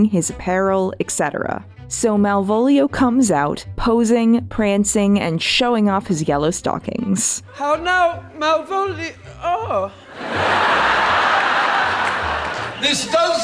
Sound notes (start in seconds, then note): 10.0 audience laughter